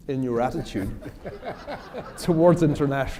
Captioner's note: laughter